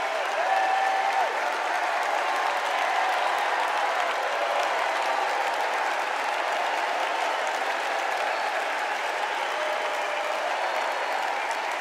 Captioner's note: cheers and applause